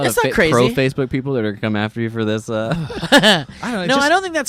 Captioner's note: laughs